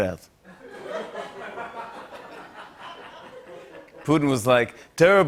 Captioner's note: laughter